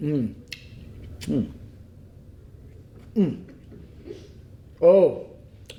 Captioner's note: Capitol humming joyfully